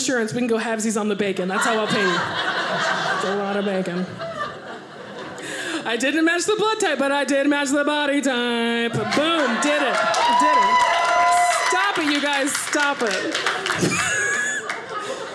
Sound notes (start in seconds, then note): 4.9 audience laughing; 9.0 audience cheering; 14.0 audience laughing